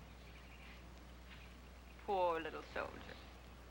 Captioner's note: scoffs